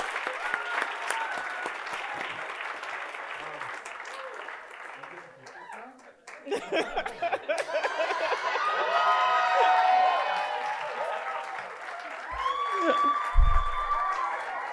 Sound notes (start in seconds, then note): 6.6 host laughing; 9.2 audience applauding; 9.2 audience cheering